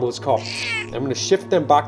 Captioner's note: squeaks